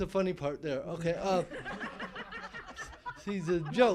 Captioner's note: laughing